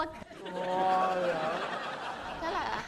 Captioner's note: laughing